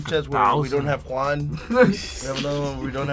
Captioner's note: laughter